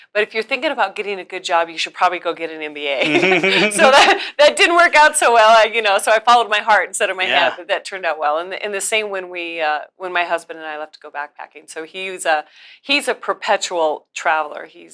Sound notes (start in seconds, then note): 3.0 both laugh